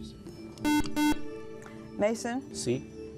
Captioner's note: beep